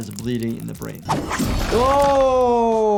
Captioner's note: weapon slashes